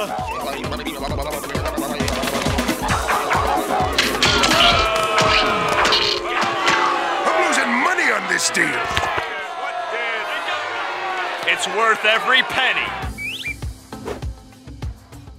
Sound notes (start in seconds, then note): 3.7 booing; 9.2 jeering